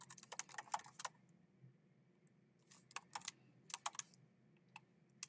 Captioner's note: keyboard clacking